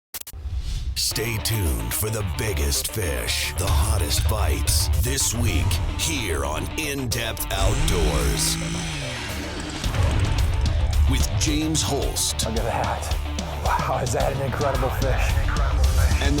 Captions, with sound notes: - [Voiceover] Stay tuned for the biggest fish, the hottest bites, this week here on In Depth Outdoors. (ice auger whirring) With James Holst. - [Voiceover] Look at that. Wow, is that an incredible fish.